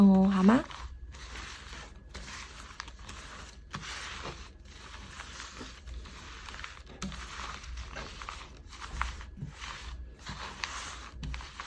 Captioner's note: drawing cards